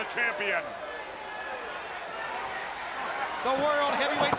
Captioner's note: crowd chatter